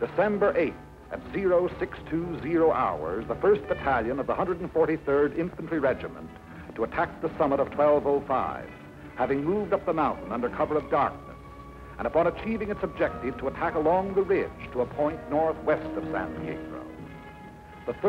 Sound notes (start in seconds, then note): none